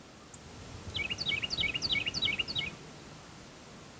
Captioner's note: bird chirping